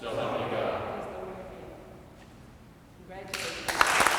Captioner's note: faintly speaking; audience clapping